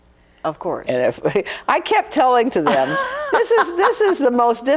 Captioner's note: laughing